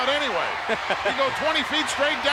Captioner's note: laughs